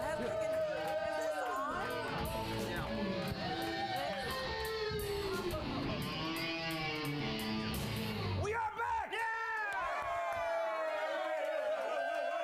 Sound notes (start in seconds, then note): 7.3 rock music; 8.4 audience cheering